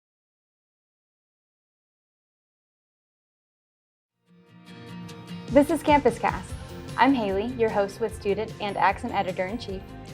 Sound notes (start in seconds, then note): 0.6 silence